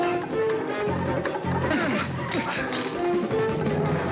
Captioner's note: both grunting